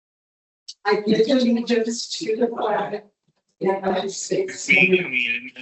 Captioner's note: distorted audio